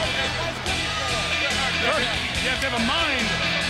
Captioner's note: crowd chatter